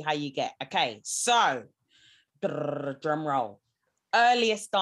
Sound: trills

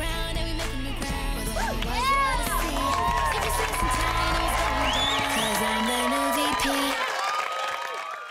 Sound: cheering, applause

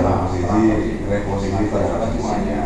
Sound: Arabic

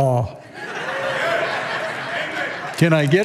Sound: congregation laughing

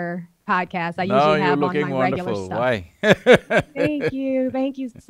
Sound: laughs

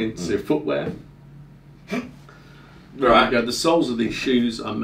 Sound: laughing

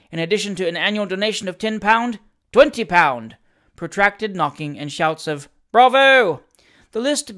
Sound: protracted knocking and shouts of ‘Bravo!’

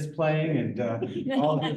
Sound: laughter

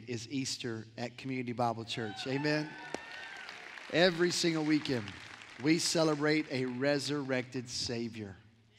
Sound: cheers; applause

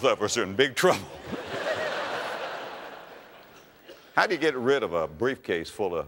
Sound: audience laughter

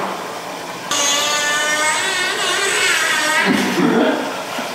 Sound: long Fart Noise

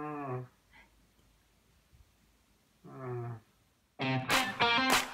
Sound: is moaning

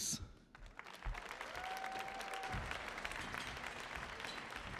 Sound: audience applauds

